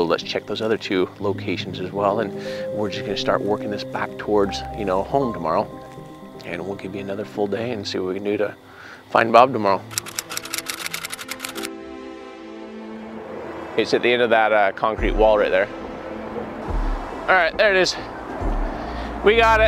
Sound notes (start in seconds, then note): 9.9 keyboard clacking; 10.4 somber music